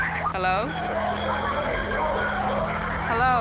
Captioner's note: screaming